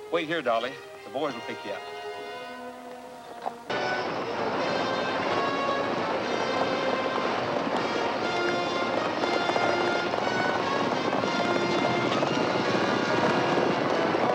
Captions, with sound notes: Wait here, Dolly, the boys will pick you up. (suspenseful music) (horses galloping)